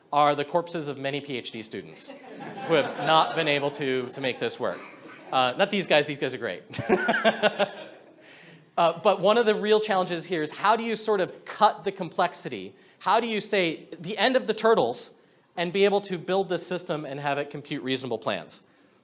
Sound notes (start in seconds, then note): 2.0 audience laughs; 6.7 he laughs with the audience